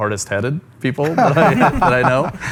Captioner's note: laughter